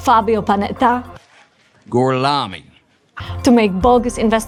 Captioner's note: speaking Italian